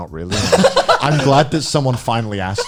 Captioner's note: laughs